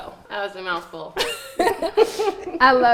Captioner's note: laughs